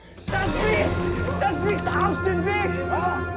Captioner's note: speaking in foreign language